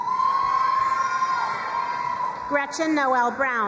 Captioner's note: crowd cheering and applauding